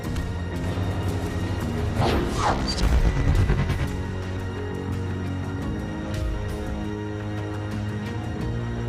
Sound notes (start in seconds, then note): 1.9 electronic whoosh